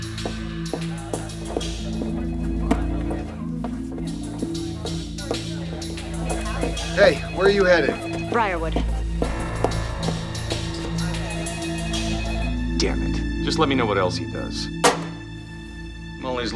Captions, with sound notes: (phones ringing) - Hey, where you headed? - Briarwood. (tense music) - Dammit. Just let me know what else he does.